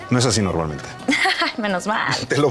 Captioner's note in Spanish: Ríe